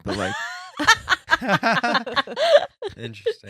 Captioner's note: laughing